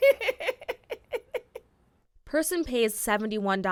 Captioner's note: laughter